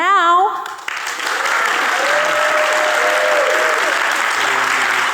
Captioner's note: audience cheering